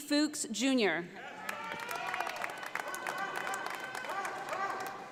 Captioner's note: audience applauding